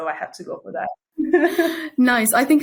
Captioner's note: both chuckling